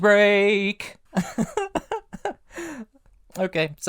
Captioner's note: laughter